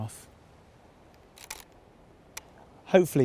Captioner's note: camera shutter click